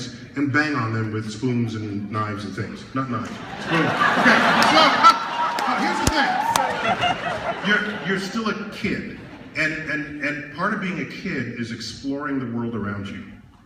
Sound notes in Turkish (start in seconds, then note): 3.2 Kahkahalar